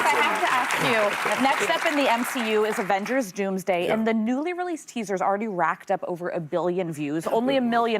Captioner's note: applause